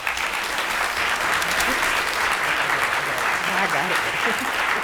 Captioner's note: audience applauds